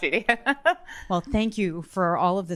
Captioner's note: laughing